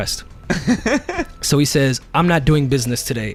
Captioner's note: laughing